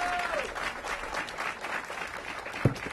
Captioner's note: applause